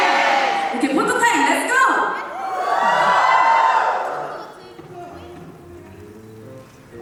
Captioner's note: cheers